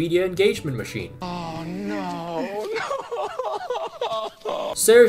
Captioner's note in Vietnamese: insert khóc lóc